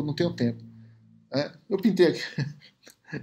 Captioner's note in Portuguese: risos